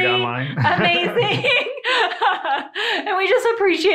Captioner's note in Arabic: يضحك